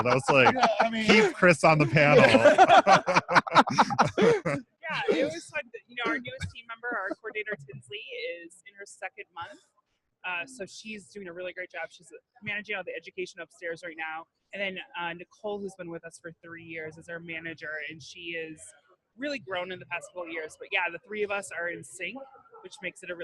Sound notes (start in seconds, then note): 2.5 all laughing